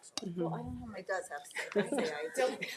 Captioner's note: speaks faintly